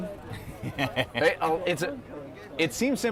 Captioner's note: laughs